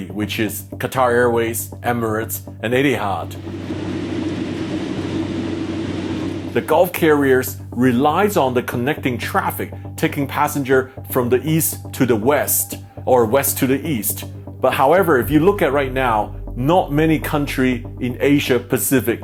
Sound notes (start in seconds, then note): 3.4 engine revving